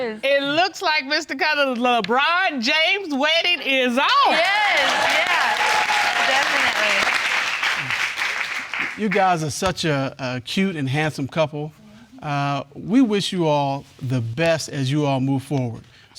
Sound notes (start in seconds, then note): 4.2 all cheering